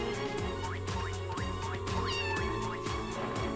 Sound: meowing

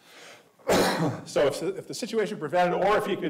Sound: clears throat

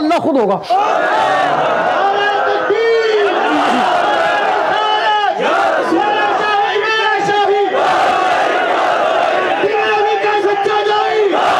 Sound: Audience raising slogans in favour of HDE Gohar Shahi

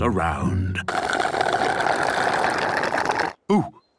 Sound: slurping

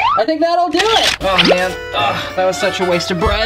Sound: camera clicks

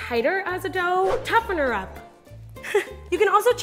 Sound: giggles

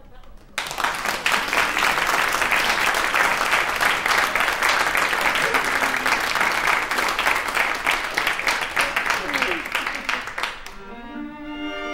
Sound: applause

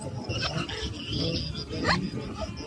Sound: people talking

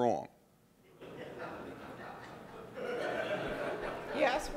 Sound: audience laughing

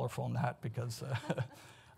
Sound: chuckles

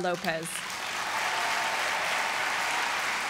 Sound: applause

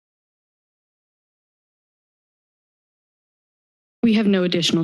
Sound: silence

